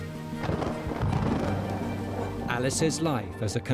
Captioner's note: dramatic music; thunder crashing